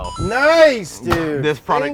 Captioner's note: arcade ding